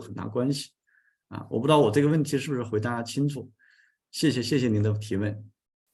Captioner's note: continues to speak in Chinese